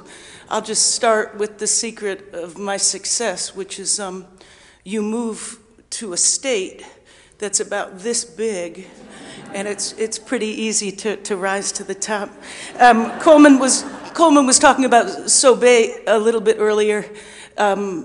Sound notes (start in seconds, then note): 12.1 audience laughing